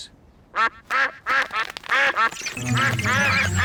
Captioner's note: all quack